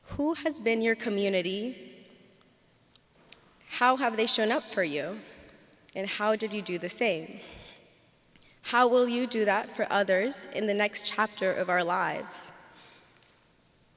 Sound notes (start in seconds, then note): none